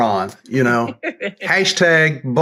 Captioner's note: laughs